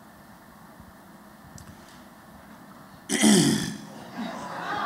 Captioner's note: laughter